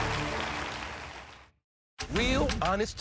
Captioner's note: applause